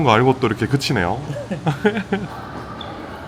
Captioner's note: laughs